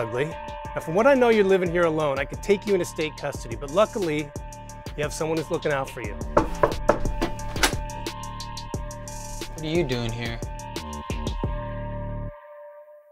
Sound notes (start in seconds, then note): 6.3 knocking on door